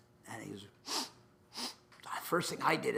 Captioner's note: sniffs